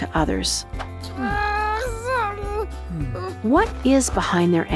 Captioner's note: animal sobbing